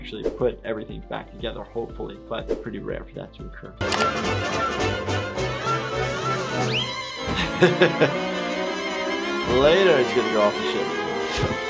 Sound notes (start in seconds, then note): 3.8 mouse clicking; 7.4 giggles